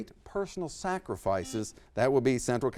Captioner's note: buzzer beeps